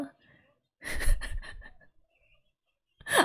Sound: laughs

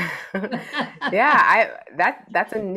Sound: chuckles; laughs hysterically

